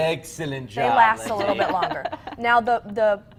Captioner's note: laughs